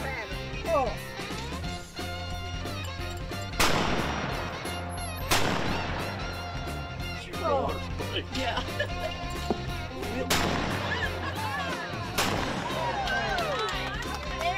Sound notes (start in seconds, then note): 1.6 gun shots; 1.6 upbeat music; 8.0 laughing; 10.2 gunshots